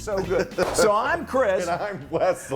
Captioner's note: laugh